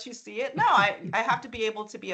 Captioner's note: chuckling